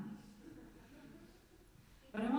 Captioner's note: light laughter